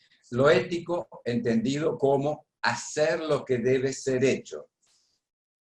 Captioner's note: speaking spanish